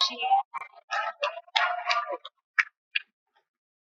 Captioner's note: cheering